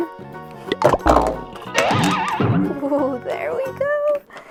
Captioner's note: loud clunk and zoing